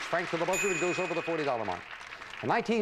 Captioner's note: audience applauding